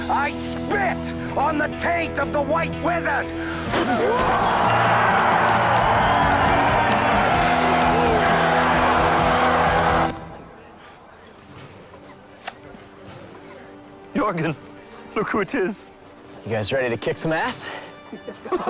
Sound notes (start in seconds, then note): 3.7 crowd Roars; 3.9 spits